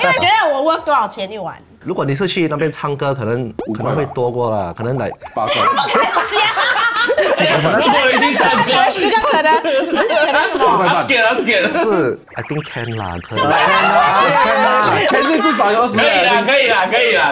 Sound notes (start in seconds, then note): 3.5 commotion; 5.4 laughs; 12.3 laughs